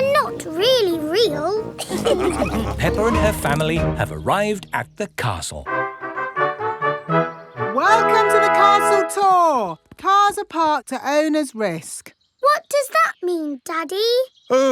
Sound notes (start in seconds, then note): 1.8 all laughing; 5.6 fanfare playing